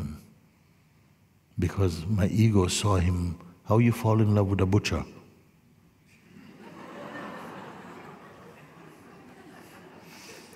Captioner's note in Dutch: gelach